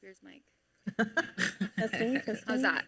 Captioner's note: pane laughing